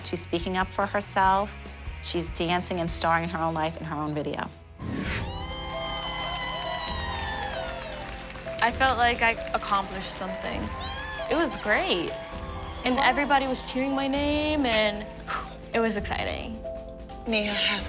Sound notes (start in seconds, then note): 5.1 cheering; 15.0 exhales